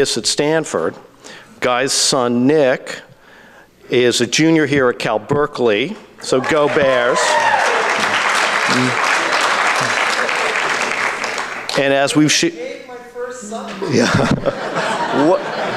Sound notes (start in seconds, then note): 8.7 audience claps and cheers